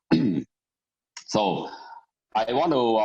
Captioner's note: clears throat